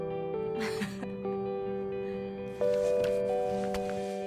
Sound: June laughs

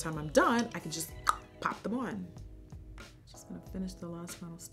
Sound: tongue clicks

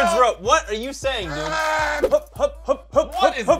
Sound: grunting

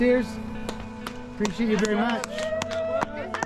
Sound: people clapping and cheering

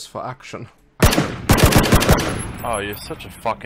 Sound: gunfire

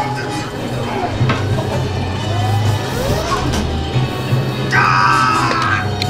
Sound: screams

